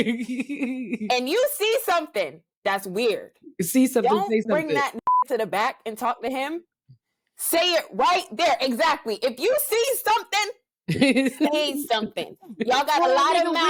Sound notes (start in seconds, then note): 5.0 beep